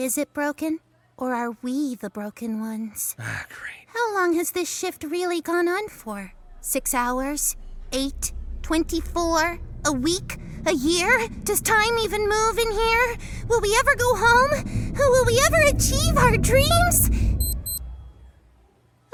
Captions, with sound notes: -Is it broken? Or are we the broken ones? -Ah, great. -How long has this shift really gone on for? Six hours? 8? 24? A week? A year? Does time even move in here? Will we ever go home? Will we ever achieve our dreams? [watch beeps]